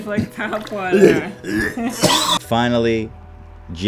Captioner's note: laughs; gagging